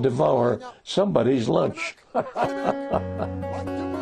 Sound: laughs; scottish music

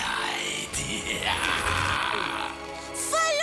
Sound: laughing maniacally

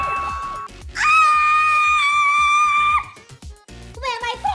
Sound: screams

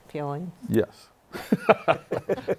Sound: laughter; laughs

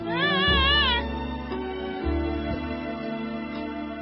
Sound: child squeals

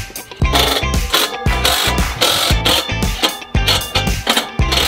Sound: drill buzzing

